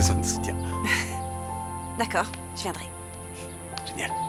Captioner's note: chuckling